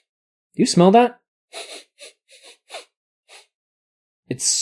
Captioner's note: sniffs in the rhythm of the Mario theme